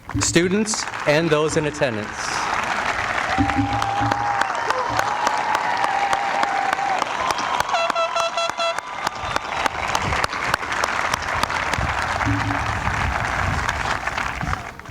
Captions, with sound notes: Students and those in attendance. [APPLAUSE]